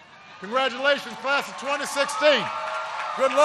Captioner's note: applause